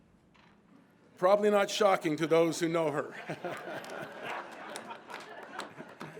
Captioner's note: all laughing